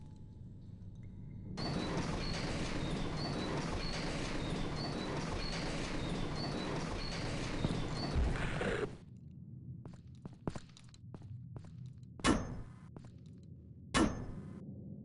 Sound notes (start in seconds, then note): 8.2 weird groan